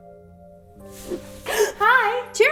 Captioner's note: gasps